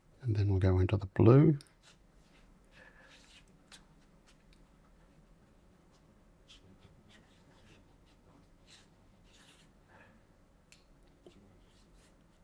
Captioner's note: silence